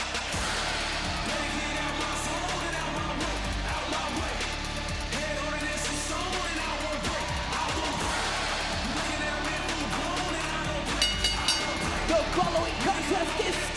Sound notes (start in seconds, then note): 10.9 bell rings